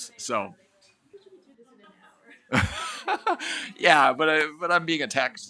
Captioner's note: chuckles